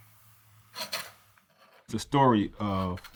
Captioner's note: palette knife scraping